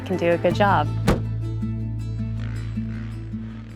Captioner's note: trunk closing; soft music